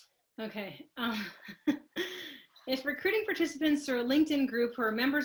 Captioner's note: laughs